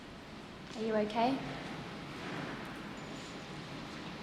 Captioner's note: none